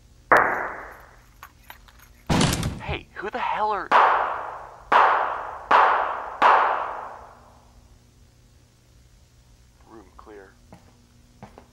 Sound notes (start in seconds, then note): 3.9 multiple gunshots